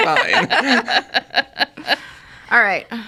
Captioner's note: all laughing